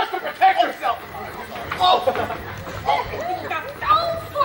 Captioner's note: scuffling